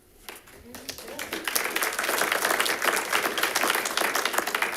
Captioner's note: audience clapping